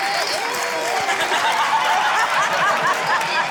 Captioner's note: laughter